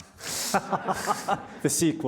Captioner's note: audience laughing